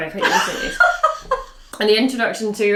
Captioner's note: laughing